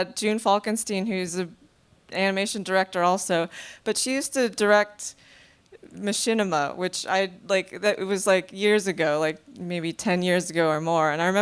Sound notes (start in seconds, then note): none